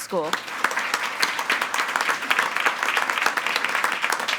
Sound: attendees applauding

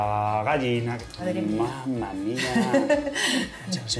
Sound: laughs

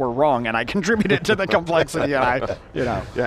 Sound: laughing

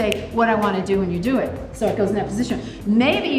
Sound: snaps fingers

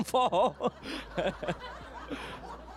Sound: laughter

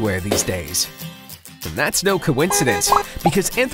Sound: horn honks

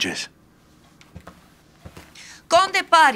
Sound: footstep departing

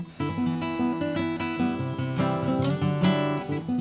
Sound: vacuum hoovering

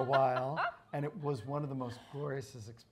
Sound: lady laughs

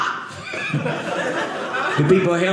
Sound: audience laughing

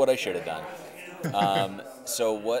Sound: chuckling

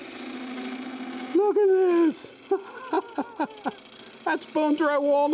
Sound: laughs

